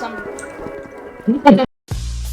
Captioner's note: laughs